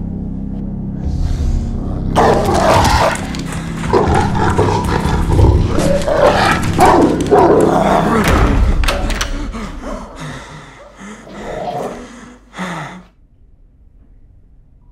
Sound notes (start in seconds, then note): 2.2 dog barking; 9.8 panting and dog snarling